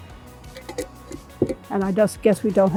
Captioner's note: lids clinking